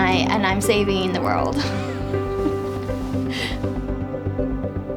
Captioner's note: laughs